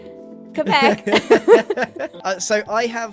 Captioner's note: laughs